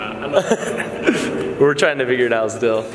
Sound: laughing

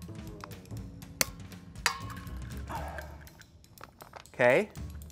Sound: egg cracking

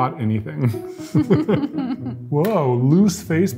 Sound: both giggle

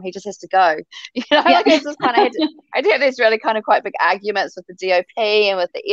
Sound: chuckle

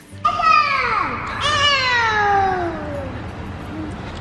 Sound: kids yelling

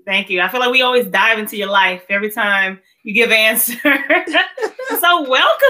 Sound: laughs

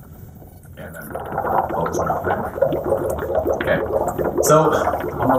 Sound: bubbling

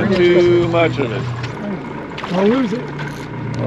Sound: fish splashing

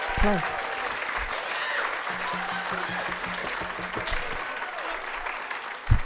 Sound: audience applauding and cheering

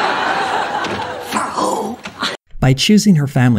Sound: whispered

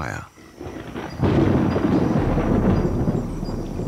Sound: thunder rumbles

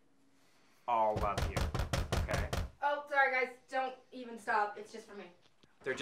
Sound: knocks on the door

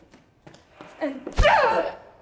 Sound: foot thump

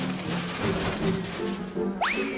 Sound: whirring sputters

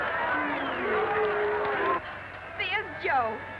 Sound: crowd booing

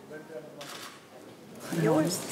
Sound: camera shutter clicks

